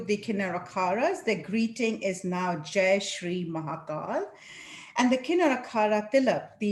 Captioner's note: non-english